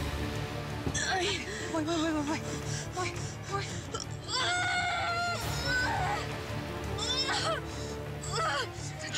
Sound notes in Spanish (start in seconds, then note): 0.9 quejidos y gritos